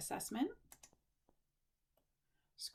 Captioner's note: click